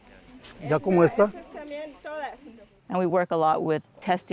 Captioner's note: individual speaks in foreign language